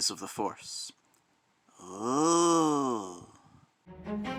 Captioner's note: sounds of awe